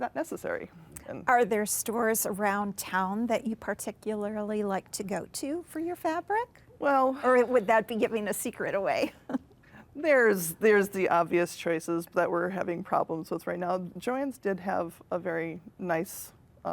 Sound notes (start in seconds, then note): 9.0 chuckles